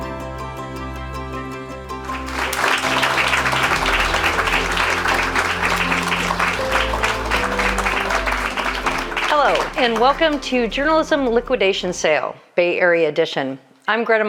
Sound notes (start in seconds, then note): 2.0 audience applauding